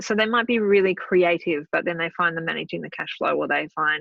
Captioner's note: none